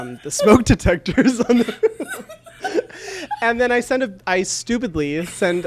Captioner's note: laughs